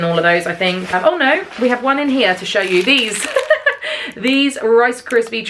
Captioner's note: laughs